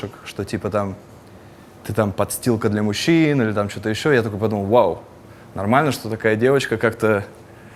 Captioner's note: none